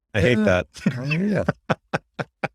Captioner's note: laughs